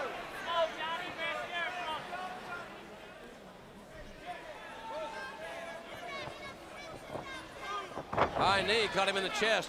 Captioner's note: crowd chatter